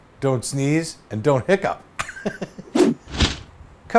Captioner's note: laughs